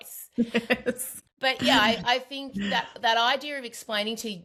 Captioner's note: laughs